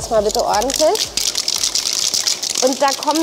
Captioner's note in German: Klackern